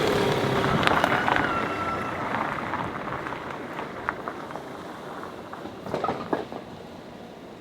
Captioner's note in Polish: Aplauz